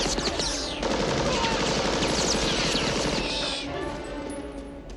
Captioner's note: screaming